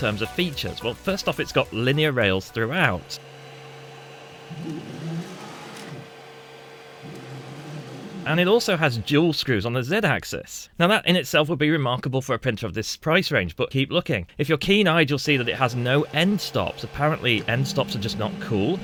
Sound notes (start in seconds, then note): 7.0 shushing noise